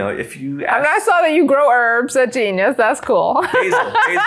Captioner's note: laughs